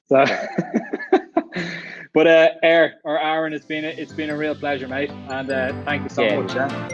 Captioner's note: chuckle